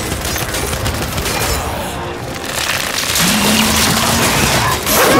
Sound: gunshots

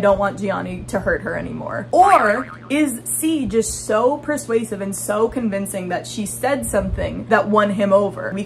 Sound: boing sound

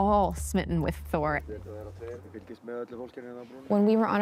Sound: non-english speech

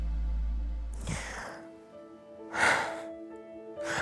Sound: sighs

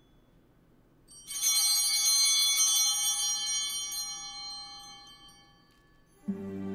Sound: bell ringing

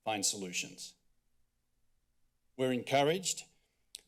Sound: silence

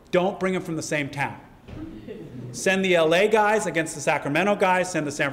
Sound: laugh

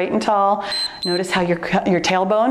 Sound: timer beeps

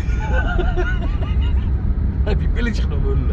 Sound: laughing

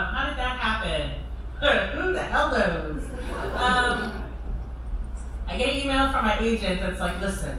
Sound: laughter

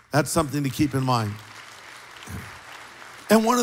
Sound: applause

